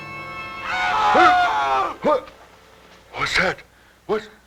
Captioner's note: yelling